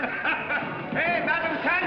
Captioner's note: laughs